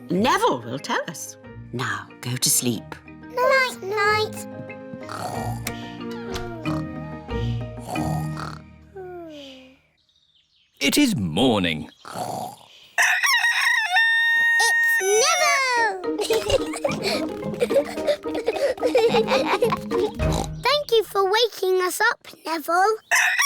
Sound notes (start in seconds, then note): 5.3 both snoring; 13.0 neville crows; 16.1 both giggling; 19.6 oinks